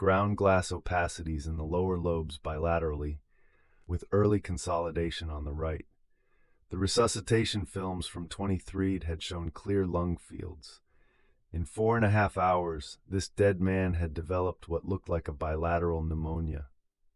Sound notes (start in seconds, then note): 3.3 inhale